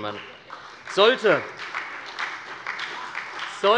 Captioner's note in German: Beifall bei der SPD